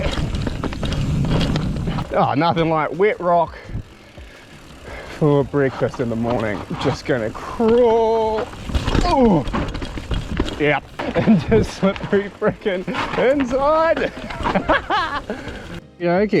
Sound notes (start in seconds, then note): 8.8 grunts; 13.9 laughs